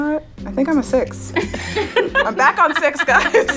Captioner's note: laughter